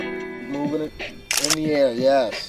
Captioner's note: camera clicking